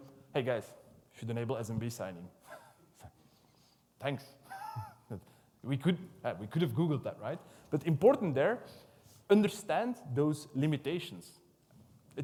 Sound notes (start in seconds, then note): 4.4 laughs